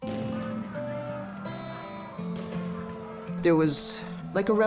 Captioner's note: explosion, shouting